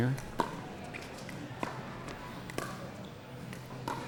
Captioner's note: ball clacking